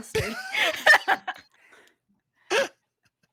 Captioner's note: laughs